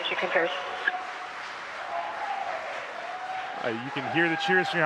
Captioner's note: cheers